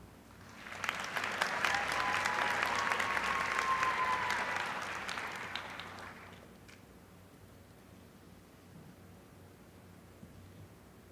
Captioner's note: applause